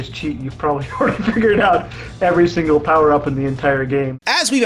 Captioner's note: laughing